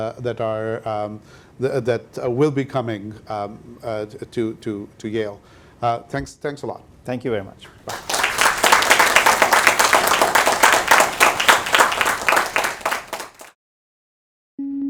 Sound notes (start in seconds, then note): 7.8 audience clapping